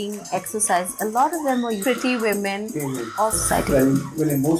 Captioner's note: intense screeming